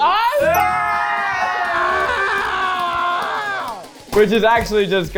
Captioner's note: people cheering